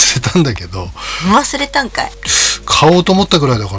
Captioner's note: laughs